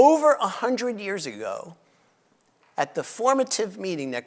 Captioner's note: none